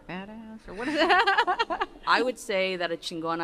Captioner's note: laughter